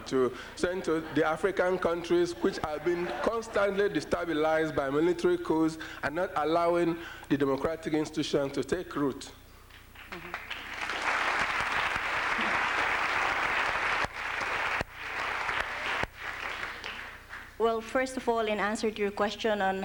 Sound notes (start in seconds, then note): 10.0 applause